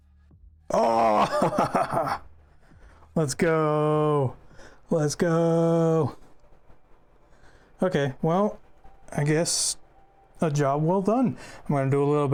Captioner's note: laughter